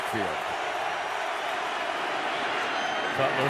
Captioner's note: crowd cheering